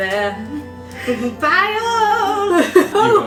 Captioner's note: laughs